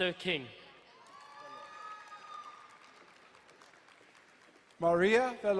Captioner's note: crowd cheering and applauding